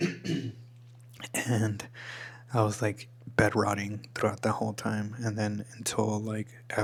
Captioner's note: clears throat